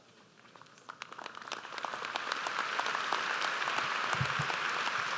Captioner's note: audience applauds